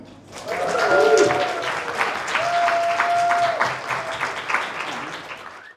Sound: crowd applauding; crowd cheering

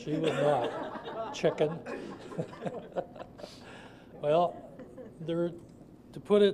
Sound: audience laughter

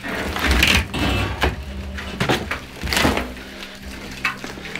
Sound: metal banging

